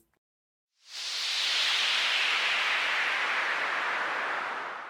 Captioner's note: wind whooshes